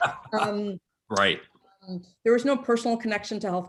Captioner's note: chuckles